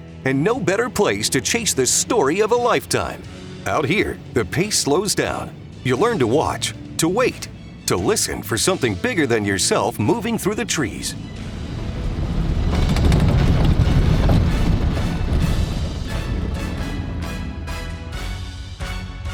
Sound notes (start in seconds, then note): 12.9 plane rattling; 16.0 dramatic music